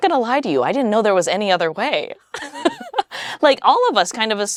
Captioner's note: laughs